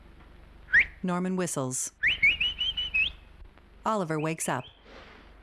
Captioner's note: Norman whistling sharply